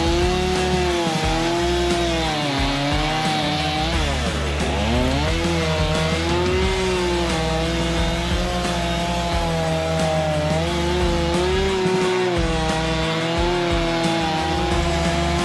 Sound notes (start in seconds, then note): 5.8 saw whirring continues; 5.8 upbeat music